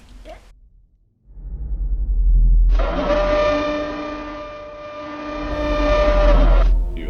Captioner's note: screeching sound